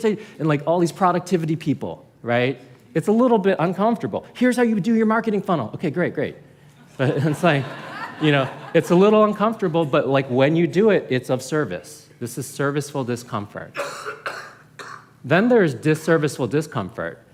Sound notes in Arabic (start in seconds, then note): 7.1 ضحك